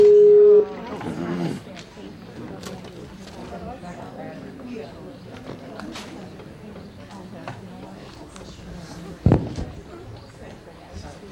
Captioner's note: dialing